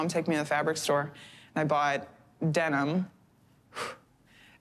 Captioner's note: exhales